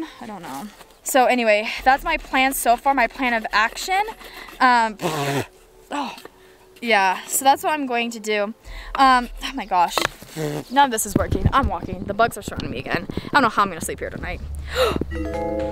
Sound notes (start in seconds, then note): 4.0 scoffs; 4.1 sniffles; 14.6 gasp; 15.1 bell chimes